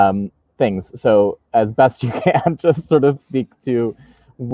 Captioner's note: laughing